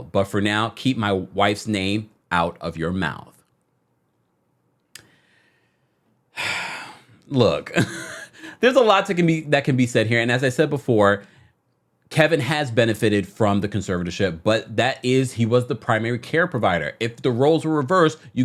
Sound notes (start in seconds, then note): 7.8 laughs